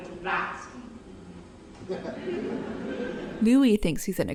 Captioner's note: audience laughs